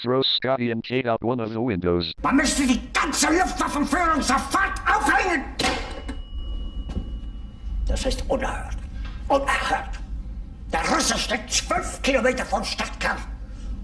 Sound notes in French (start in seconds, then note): 3.2 au téléphone; 8.2 parlant un anglais clair